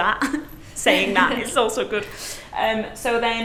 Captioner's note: instructors laughing